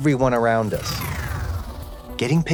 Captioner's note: electricity whirring